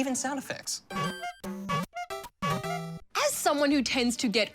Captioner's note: horn toots